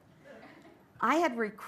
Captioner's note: light laughter